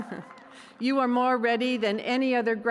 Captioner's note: cheers and applause